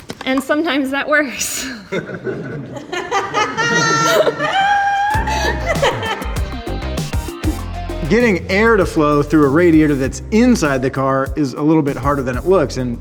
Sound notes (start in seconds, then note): 1.9 laughs; 2.4 crew laughing; 5.1 funky guitar music